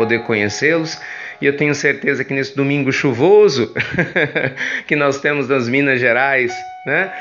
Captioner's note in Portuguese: risos